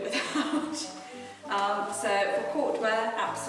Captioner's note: woman laughs